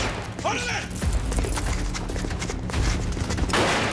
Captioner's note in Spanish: Disparo